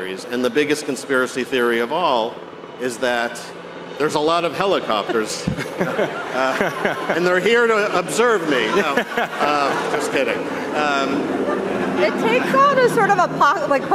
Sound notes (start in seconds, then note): 5.5 all chuckling; 9.6 all chuckling; 11.3 audience chuckling